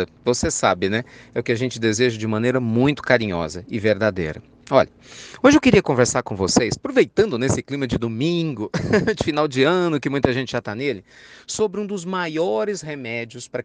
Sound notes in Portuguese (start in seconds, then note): 8.7 risos